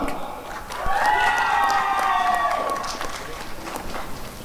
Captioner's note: applause and cheering